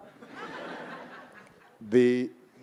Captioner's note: audience laughing